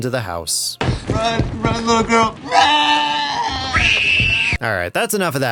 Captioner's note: screams